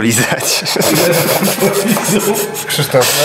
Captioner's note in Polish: śmiechy